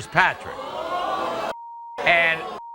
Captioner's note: audience boos